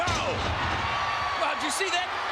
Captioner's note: spectators cheering